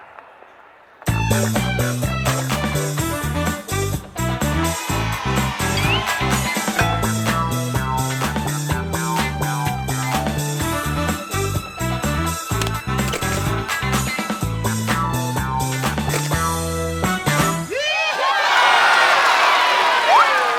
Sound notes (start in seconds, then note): 0.1 disco music; 17.6 loud cheers